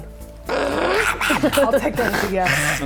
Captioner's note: affirmative lizard squelching